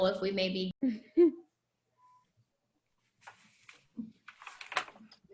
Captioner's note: girl chuckles